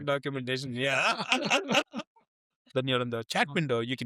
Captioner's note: laughing